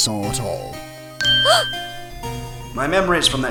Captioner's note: gasp